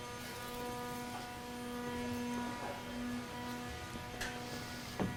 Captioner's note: machines whirring